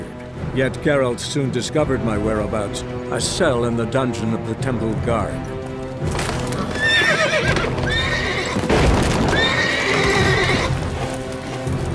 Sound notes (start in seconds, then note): 6.3 wood splintering, horse neighing; 8.6 loud crash